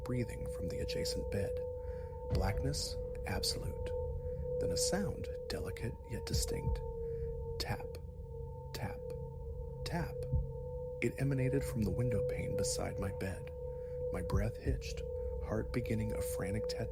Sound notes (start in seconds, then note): 6.4 tap... tap... tap